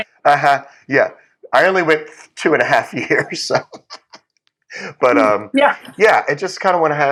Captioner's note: laugh